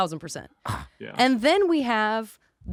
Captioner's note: scoffs